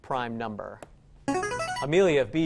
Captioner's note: answer bell